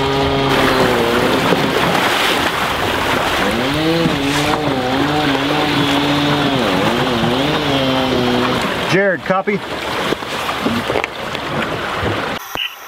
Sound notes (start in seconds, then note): 1.9 water splashing